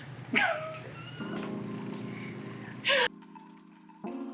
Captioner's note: discouraged laugh